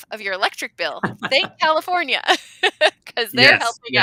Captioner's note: laughing